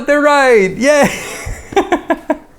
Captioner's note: laughs